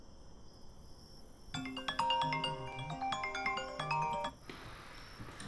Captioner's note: crickets chirping; phone alarm